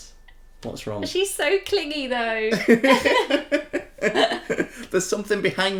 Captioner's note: laughter